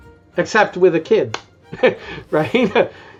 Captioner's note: chuckles